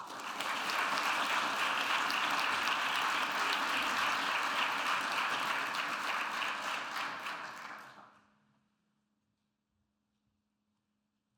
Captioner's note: audience applauding